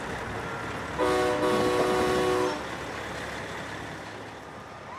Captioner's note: horn honking